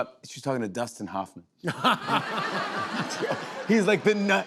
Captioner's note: laughter